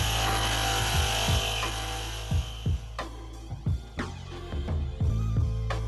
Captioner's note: the irritating grinding noise mercifully fades out